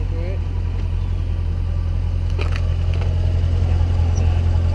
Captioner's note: engine running